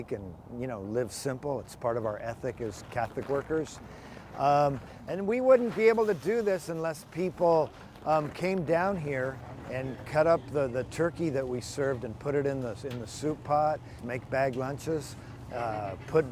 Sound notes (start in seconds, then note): 4.2 bags rattle